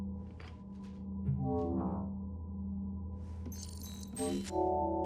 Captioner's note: interface hums